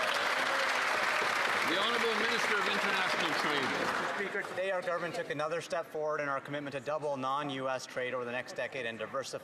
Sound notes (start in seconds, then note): 5.3 some Applause